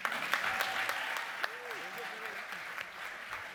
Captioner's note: applause